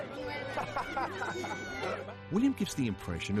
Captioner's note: William laughs